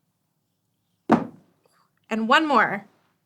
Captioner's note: ball thuds